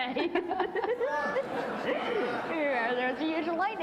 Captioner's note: audience laughing